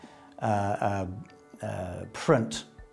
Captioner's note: stammers